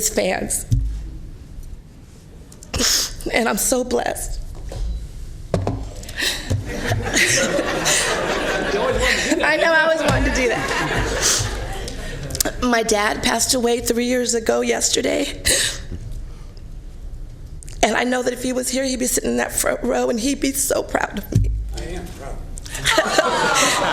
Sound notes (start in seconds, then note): 13.6 laughter